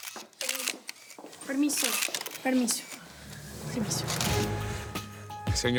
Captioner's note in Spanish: Ruido de los obturadores